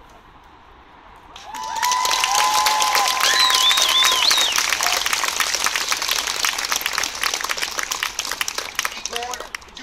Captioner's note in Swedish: Jubel och applåder